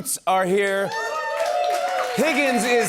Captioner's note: cheers and applause